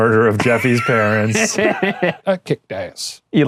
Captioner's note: laughing